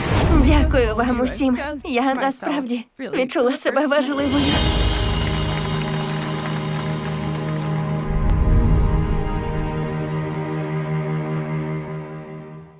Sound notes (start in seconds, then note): 4.6 applause